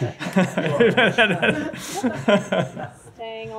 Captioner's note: laughter